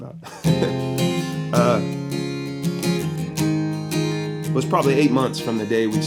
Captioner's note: chuckles and strums